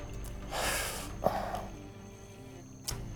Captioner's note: sigh